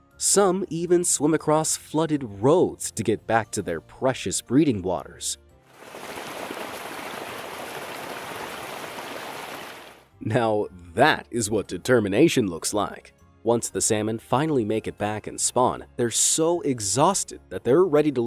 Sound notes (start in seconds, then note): 5.7 water sloshing; 5.8 fish flapping